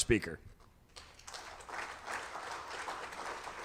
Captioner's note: audience applauding